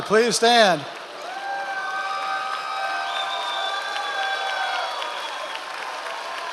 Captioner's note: members of the audience cheering